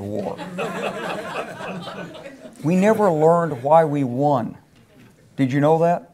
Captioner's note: laugh